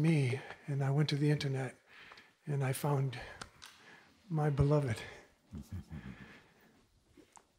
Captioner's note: Mooji softly chuckles